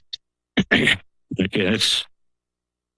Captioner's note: clears throat